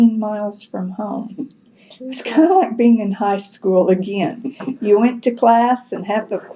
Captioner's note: laughs